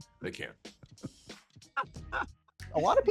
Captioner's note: snickers